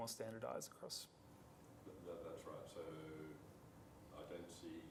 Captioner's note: man speaks softly